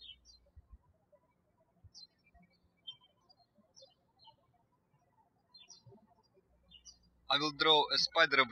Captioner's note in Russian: птички щебечут